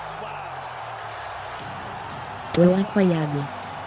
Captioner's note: crowd cheering